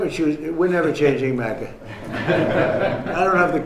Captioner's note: laughing